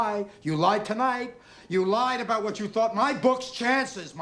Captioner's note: none